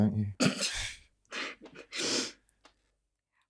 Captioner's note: Sarah laughs